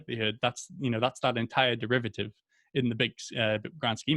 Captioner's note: speaks faintly